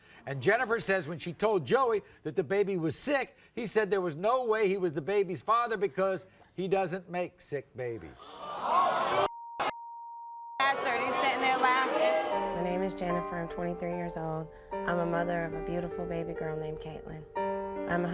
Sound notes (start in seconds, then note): 8.3 audience boos